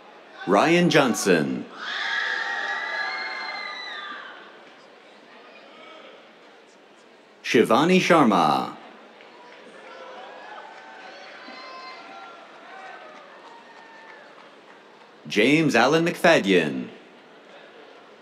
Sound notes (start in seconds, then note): 1.8 cheers; 9.1 cheers, applause